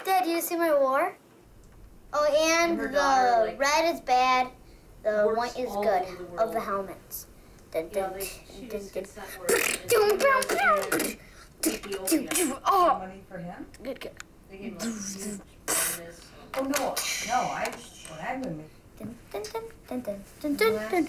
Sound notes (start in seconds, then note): 7.8 imitates gunfire; 17.5 humming